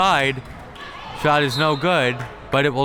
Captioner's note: whistle tweeting